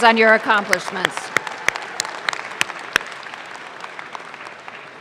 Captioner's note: audience claps